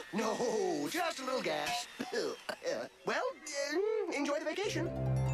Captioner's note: coughs